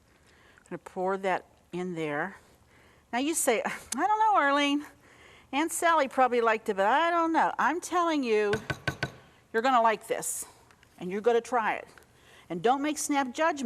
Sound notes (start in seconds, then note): 8.5 spoon tapping